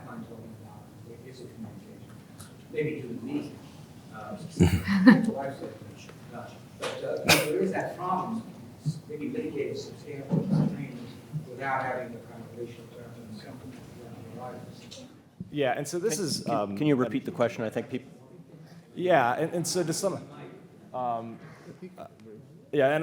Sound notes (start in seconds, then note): 4.5 laugh